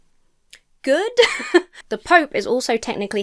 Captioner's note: laughs